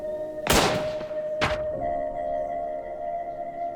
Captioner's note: gunshot